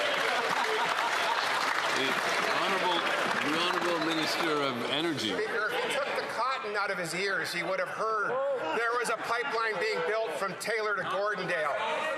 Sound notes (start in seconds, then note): 5.0 applause